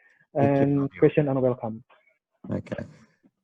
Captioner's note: speaking in foreign language